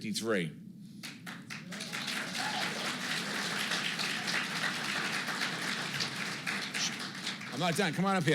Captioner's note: applause